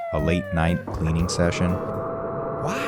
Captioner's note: vacuum starting up